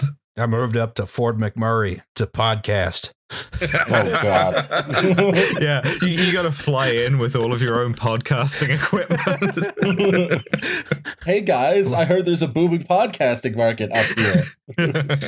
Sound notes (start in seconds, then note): 4.5 laughter; 9.4 laughter